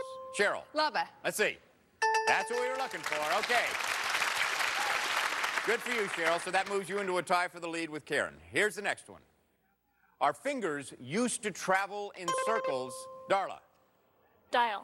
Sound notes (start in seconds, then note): 2.0 bell rings; 2.8 cheers and applause